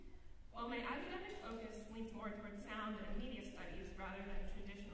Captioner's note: none